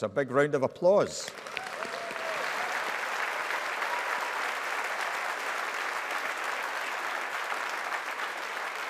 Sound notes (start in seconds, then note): 1.2 audience applauding